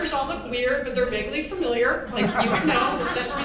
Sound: audience chuckles

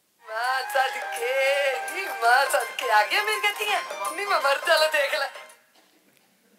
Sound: non-English speaking over music

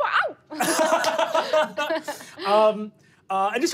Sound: laughing

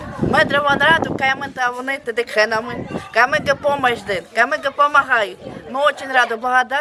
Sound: speaking Romani

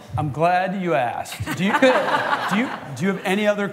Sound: laughter

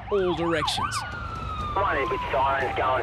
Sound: sirens wailing

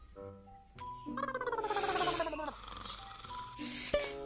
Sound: angry growls

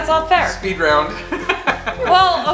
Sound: chuckles

